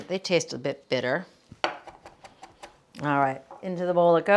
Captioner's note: knife thudding